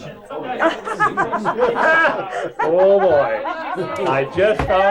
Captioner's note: laughs